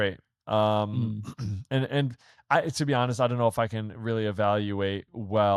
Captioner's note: clears throat